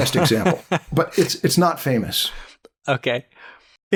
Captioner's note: laughter